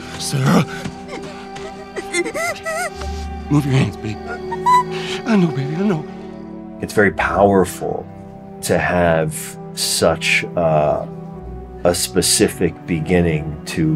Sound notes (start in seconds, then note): 0.4 crying